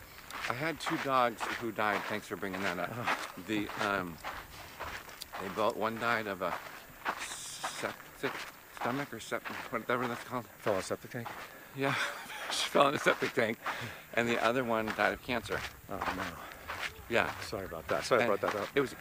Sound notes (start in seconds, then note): 3.1 giggles; 11.8 laughs